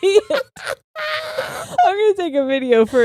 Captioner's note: both laughing